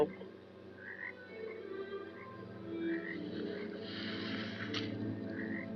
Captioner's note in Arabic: نقيق الضفادع; خطوات